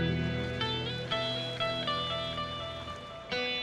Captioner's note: water lapping